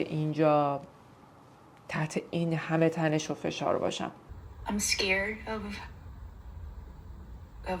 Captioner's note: TV dialogue in English